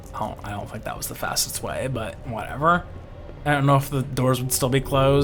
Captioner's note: none